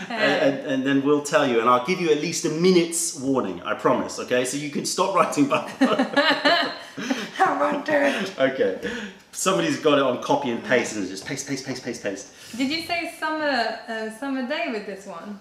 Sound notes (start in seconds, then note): 5.4 laughter